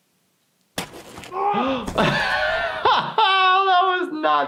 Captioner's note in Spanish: golpe, gritos; jadeando y riendo